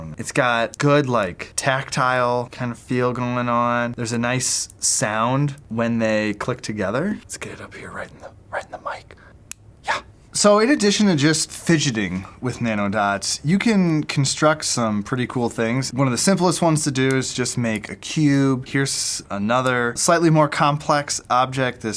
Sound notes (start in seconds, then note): 9.5 click